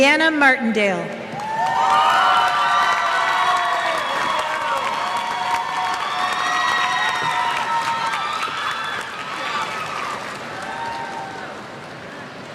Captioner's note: cheers